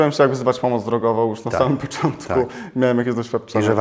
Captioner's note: laughs